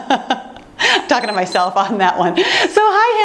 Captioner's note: timer beeps